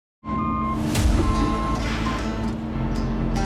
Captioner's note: tractor beeping; light upbeat music